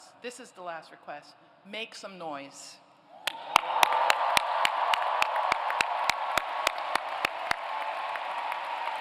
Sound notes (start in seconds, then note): 3.2 applause, cheering